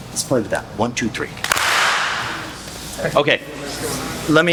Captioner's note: clap